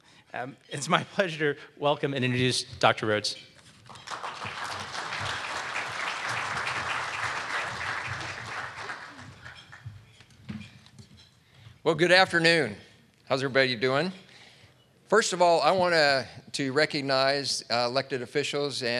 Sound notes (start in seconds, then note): 3.8 audience clapping